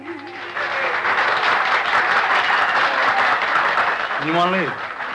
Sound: applause

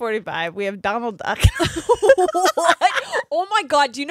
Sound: both laughing

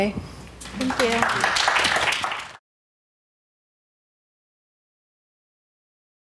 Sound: clapping

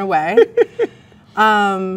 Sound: man laughs

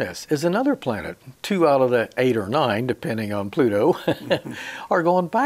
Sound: chuckles

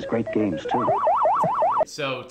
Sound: game noises

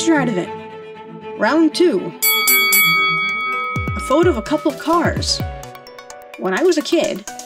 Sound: ding ding

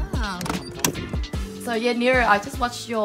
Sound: car door clicking

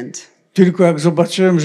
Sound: foreign language

